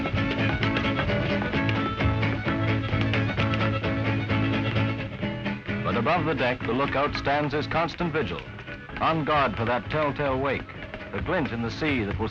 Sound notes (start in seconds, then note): 6.0 voiceover